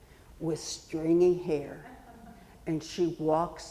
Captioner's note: audience member chuckling